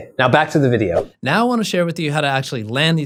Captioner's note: air whooshing